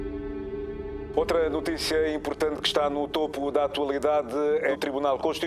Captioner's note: speaking Portuguese